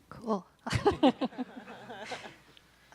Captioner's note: audience laughing